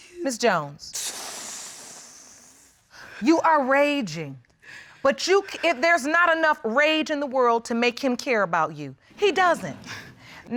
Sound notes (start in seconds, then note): 0.9 exhales